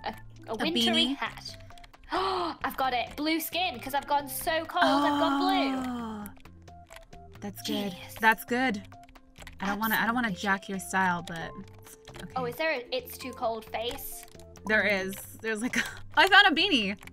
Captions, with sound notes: A wintery hat-- A beanie? [Gasp] I've got it, Blue skin, cause I've gone so cold I've gone blue! That's Good Genius! Thats Good! Absolute genius I don't wanna jack your style, but Oh, is there an "It's too cold" face? There is, there's like a--Oh I found a beanie!